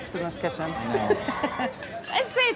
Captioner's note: laughs